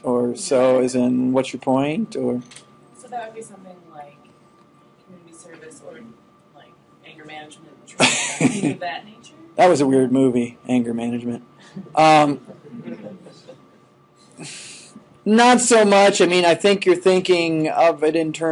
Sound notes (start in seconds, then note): 8.0 laughing; 12.4 students chuckling